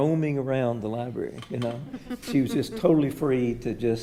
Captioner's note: attendees laughing